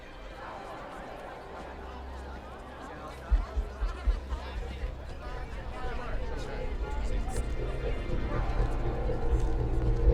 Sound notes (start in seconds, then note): 3.7 people chattering; 7.3 brooding music